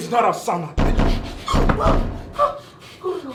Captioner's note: banging on door